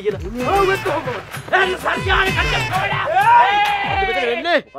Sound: fighters screaming

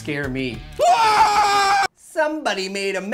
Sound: shrieks

